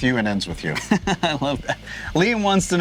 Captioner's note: laughs